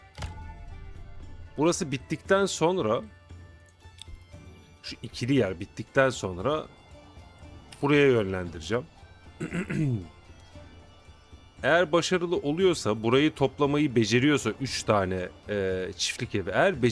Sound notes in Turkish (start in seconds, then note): 9.3 öksürme